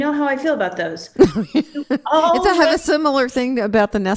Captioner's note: laughs